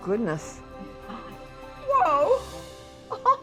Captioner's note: laughs